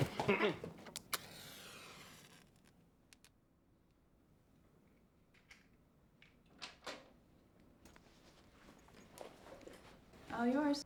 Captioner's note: clears Throat